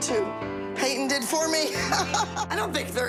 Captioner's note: laughs